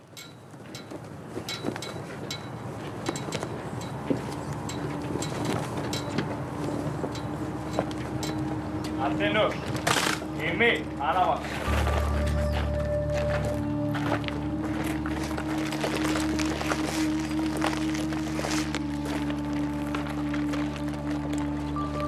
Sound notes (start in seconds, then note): 1.4 flag cord buckle clattering; 9.7 rifles clattering; 15.7 Evzones marching